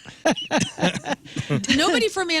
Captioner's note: laughing